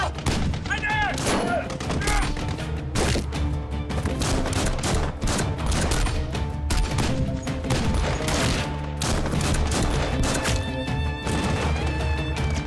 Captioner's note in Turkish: Silah sesi